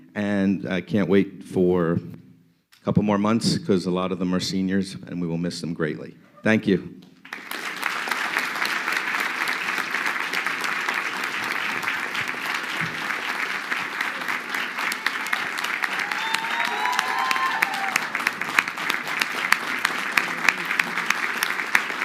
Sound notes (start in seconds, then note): 7.4 crowd clapping